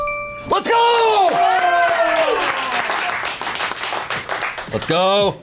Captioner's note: colleagues applauding